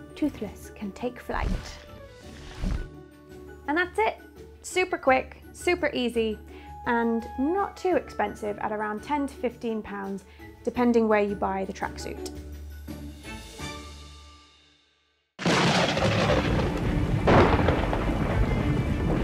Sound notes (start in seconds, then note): 15.4 lightning cracks; 17.2 instrumental music playing